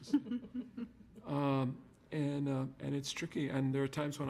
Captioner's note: audience laughter